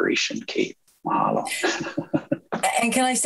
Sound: chuckles

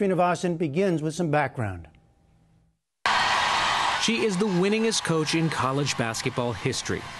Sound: cheering

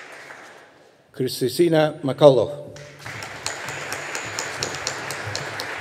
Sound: audience applauding

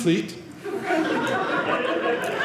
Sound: audience laughing

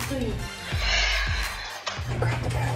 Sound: sighs

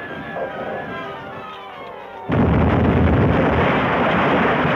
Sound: rocket exploding

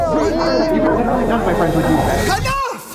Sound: people chattering

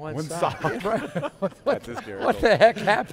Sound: laughter

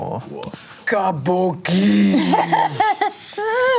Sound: grunts

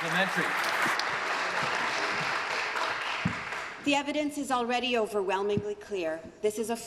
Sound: applause

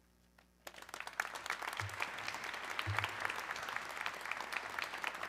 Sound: audience clapping

